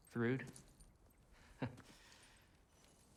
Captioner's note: laugh